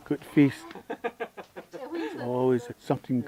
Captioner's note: laughter